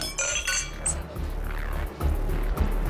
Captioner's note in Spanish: Chocan las copas